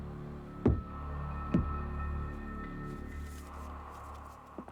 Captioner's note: footsteps thudding